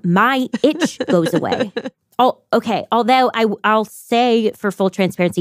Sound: laughs

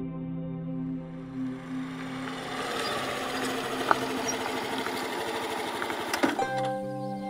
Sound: scooter engine

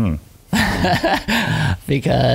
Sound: laughing

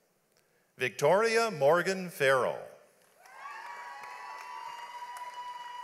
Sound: audience applauds

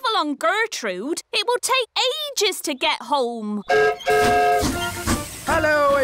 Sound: whistle blows

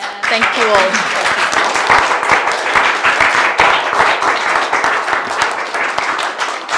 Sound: audience applauding

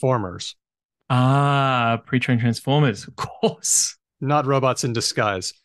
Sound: laughs

